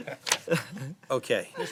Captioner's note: laughter